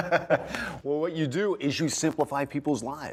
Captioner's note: laughter